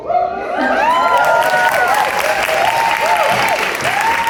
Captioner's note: audience reacts